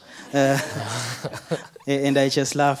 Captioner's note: audience laughing